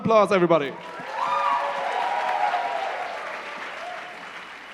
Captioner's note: cheering and applause